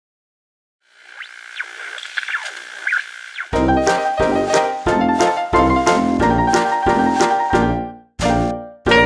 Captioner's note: TV interference